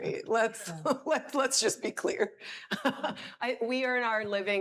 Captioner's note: laughs